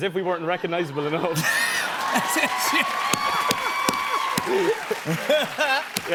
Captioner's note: laughter; cheers and applause